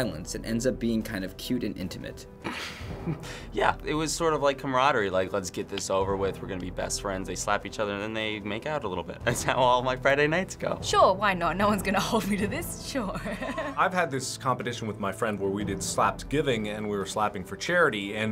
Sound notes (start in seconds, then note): 2.4 laughs skeptically; 13.4 laughs